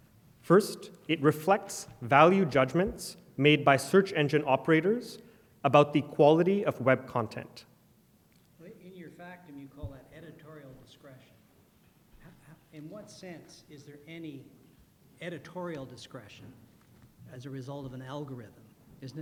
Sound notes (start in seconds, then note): 8.5 voiceover